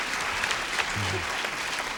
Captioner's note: applause